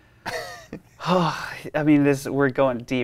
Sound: laughs; sighs

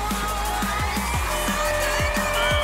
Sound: buzzer sounding; whistle blowing

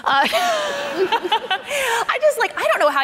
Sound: laughing

